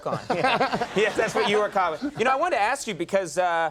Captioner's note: audience laughing